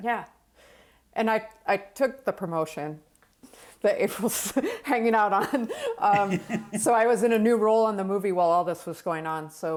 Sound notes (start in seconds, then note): 5.2 laughs